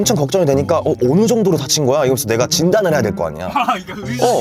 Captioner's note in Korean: 속사포